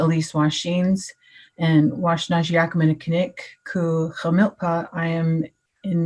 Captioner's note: speaking in Native tongue